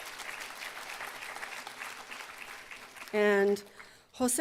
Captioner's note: applause